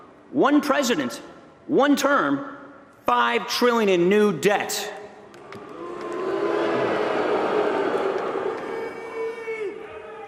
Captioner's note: booing